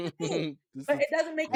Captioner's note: laughing